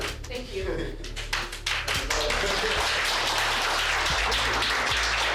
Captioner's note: audience applause